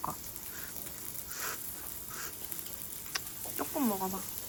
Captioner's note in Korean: 식히는 소리